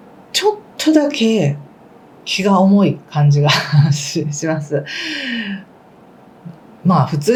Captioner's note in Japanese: 息をのむ音